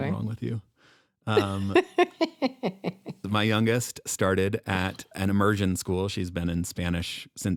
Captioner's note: chuckles